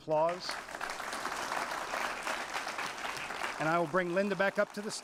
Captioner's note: applause